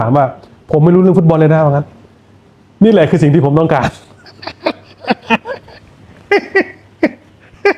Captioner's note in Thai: เสียงหัวเราะ